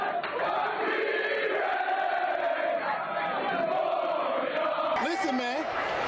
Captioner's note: cheering